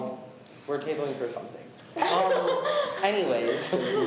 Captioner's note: laughs